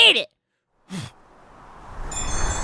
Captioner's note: soft but oddly endearing pig snort